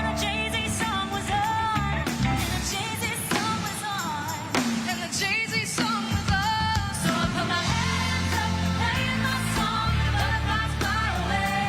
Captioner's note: cheers and applause